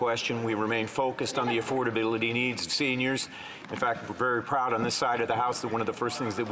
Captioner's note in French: voix de l'interprète